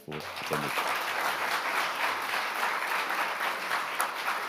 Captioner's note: audience applauds